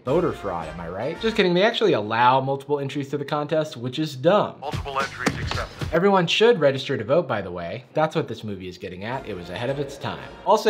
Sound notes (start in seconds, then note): 4.7 radio Announcer